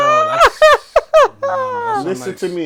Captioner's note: laughter